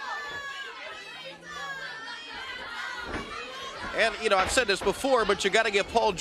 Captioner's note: crowd chatter